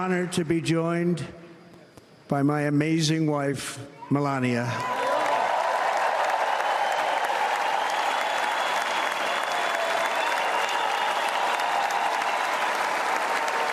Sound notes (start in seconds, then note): 4.8 applause